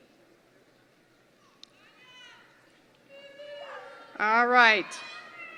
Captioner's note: audience noise